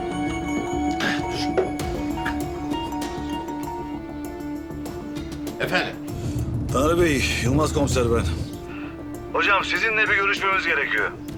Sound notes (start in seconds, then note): 4.2 phone is ringing